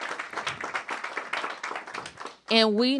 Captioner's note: applause